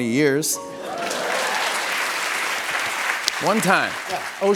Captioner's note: laughter and applause